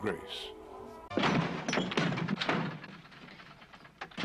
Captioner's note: door thuds